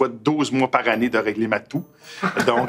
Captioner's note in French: rire